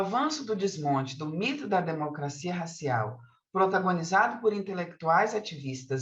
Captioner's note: continues speaking in Portuguese